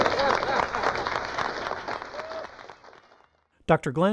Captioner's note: applause